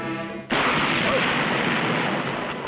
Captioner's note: gunshot